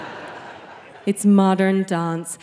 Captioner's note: audience laughing